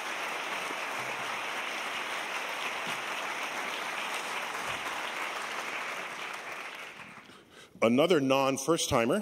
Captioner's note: applause